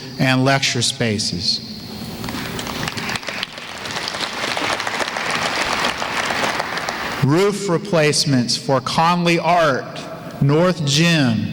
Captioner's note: applause